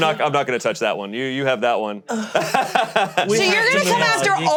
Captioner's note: laughs